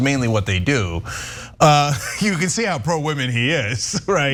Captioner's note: laugh